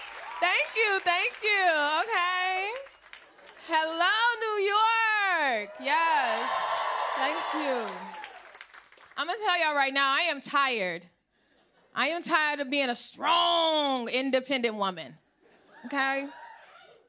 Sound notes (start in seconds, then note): 4.6 cheers and applause